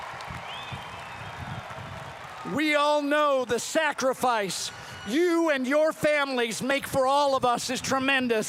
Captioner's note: cheering and applause